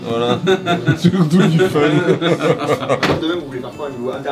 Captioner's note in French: rires